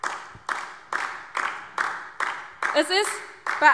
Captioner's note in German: Beifall DIE LINKE